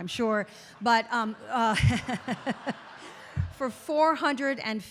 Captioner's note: audience laughing; laughs